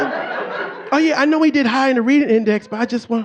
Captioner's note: audience laughing